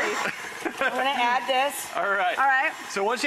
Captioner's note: laughing